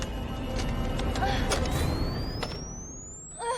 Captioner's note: machine beeps; Olivia gasps; laser whirs; Olivia gasps